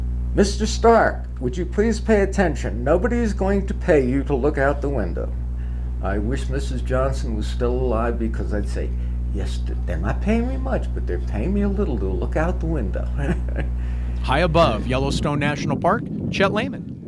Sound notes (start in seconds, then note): 13.0 laughter